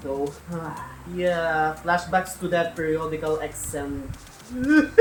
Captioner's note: sighs; laughing crying